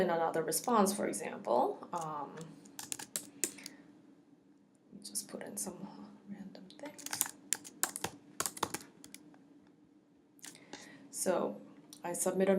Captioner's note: typing